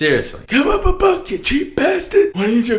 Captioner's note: italian mobster voice